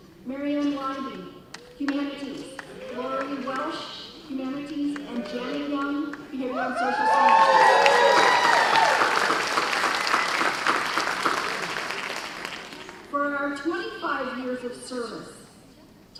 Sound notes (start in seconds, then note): 6.4 cheers and applause